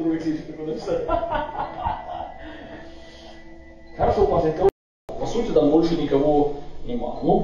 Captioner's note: laughs